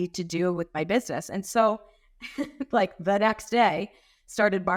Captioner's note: chuckling